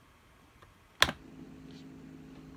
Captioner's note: hard tap